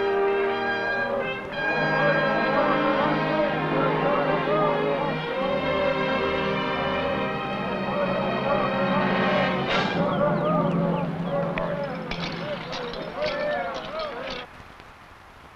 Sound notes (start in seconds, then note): 3.0 men chanting; 11.2 buckles rattling